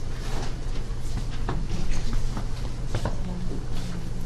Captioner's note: feet shuffling